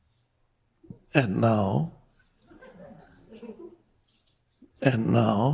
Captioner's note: crowd laughs